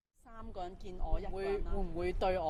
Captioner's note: non-english speech